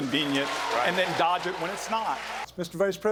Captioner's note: cheering and applause